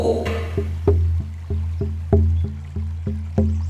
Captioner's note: sound of water and drumming